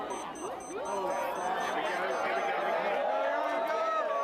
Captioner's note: cheers